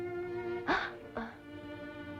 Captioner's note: gasps